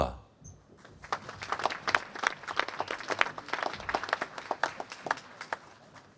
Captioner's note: applause